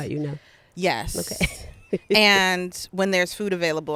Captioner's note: laughing